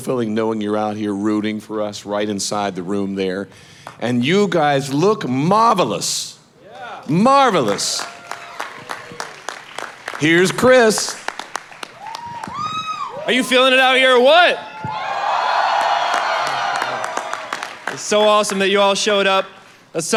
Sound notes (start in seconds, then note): 7.4 audience applauding; 14.9 audience applauding